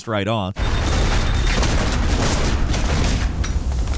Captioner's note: gun firing